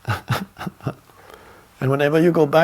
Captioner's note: laughing